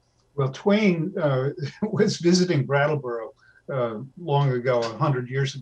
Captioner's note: laughs